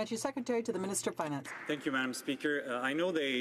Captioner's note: some Applause